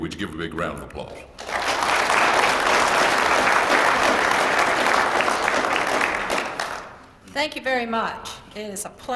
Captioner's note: applause